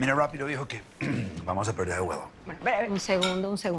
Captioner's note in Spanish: Carraspea